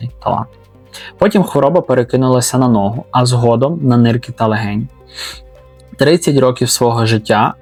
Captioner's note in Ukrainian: сопіння